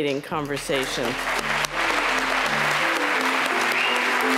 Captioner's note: applause